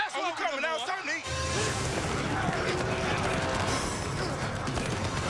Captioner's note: grunting